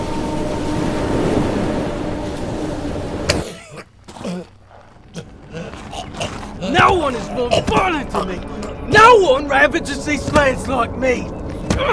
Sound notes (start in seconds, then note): 5.1 gagging; 11.7 thumping